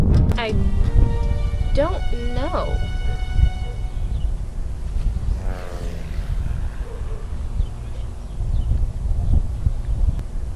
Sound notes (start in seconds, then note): 5.7 airplane flies overhead